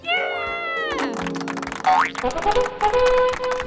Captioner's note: clapping; trumpet